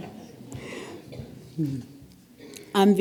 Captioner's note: laugh